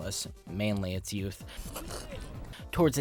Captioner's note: sip